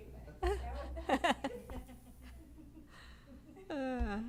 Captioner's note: laughter